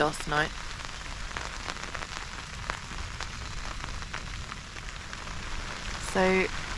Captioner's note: rain